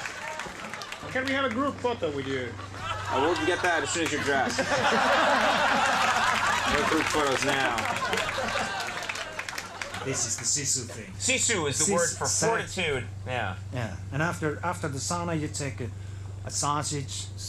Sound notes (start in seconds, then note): 4.5 group laughing; 5.8 crowd laughing